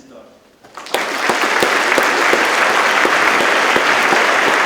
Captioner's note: audience claps